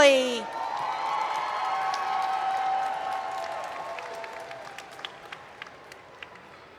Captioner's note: cheering and Applause